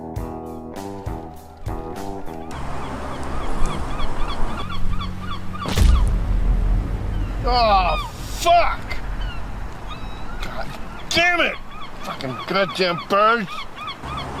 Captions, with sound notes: (gulls squawking) (bird poop splattering) Oh, fuck. (gulls squawking) Goddammit. Fucking goddam birds.